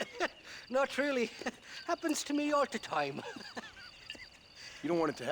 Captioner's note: laughs